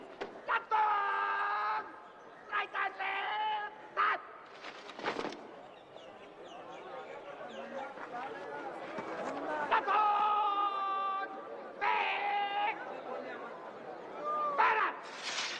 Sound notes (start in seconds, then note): 0.0 footsteps approaching; 4.5 footsteps in unison; 5.3 crowd murmuring